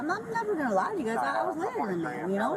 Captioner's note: radio chatter